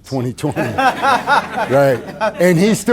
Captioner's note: audience laughing